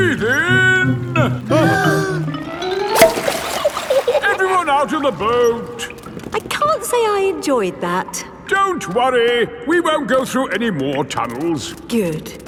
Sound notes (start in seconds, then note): 1.2 breathing in